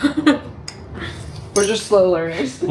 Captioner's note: laughing